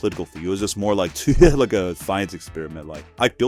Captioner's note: laughs